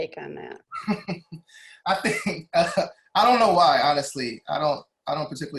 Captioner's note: laughing